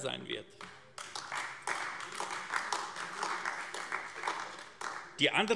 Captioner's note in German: Beifall AfD